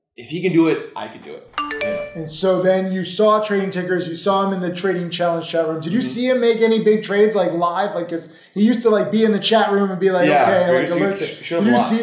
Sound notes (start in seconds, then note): 1.5 phone alert dinging